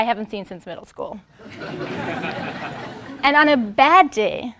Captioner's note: laugh